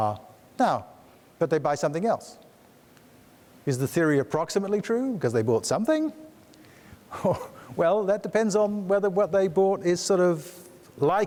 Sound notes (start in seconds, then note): 7.5 laughs